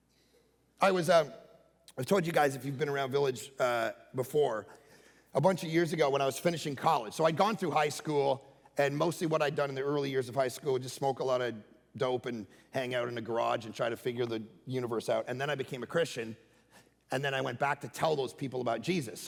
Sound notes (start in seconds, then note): none